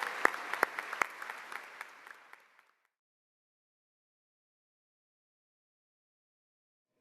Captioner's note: applause